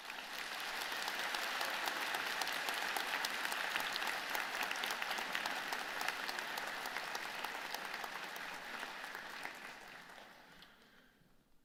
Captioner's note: applause